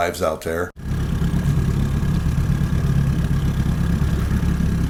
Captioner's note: engine roaring